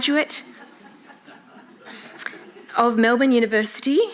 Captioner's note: audience laughing